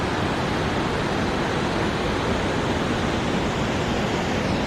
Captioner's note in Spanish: sonido de cataratas